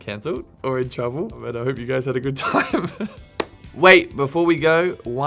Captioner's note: laughing